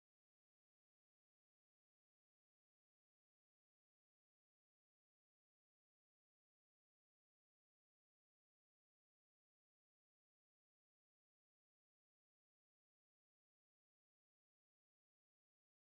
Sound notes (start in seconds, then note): none